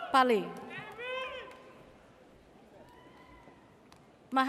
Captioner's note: audience cheers